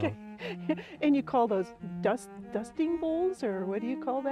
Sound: laughs

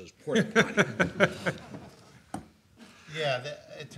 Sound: laughs

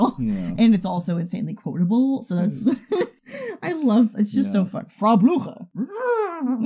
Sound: laughs; stammers with joy; whinnies; both laugh

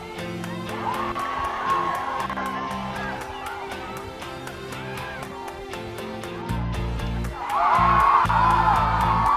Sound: cheering

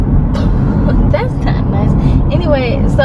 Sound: laughs

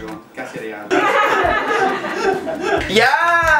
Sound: laughs

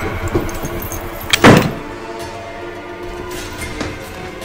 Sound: door slamming; dramatic music

